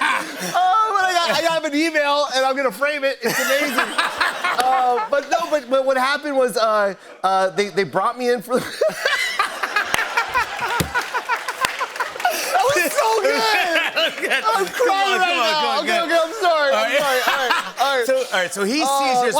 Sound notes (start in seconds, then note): 3.2 laughter; 8.5 laughter